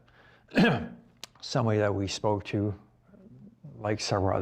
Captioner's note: clears throat